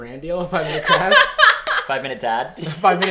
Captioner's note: laughs